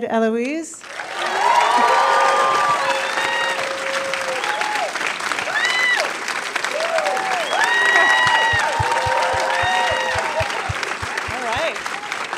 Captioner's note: applause